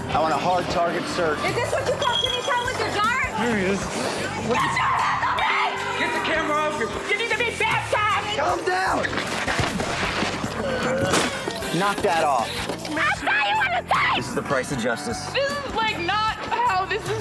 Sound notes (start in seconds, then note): 4.5 screaming